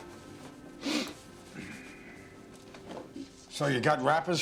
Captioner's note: sniffs, Sighs